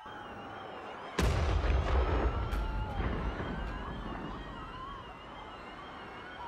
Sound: people yelling; explosions booming

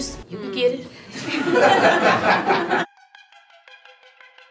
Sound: laughs

